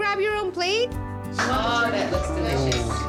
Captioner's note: indistinct chatter, laughter